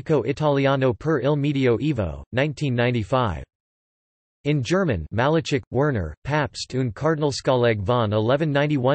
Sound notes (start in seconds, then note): 2.8 in German